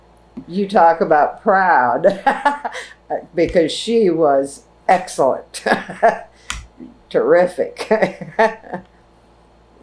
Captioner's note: laughs